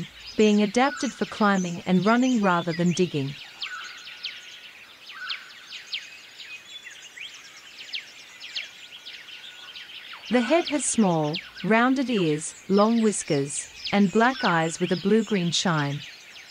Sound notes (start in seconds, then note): 3.6 forest sounds